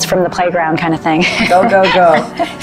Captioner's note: laughs